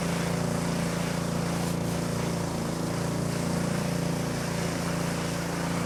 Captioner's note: motor running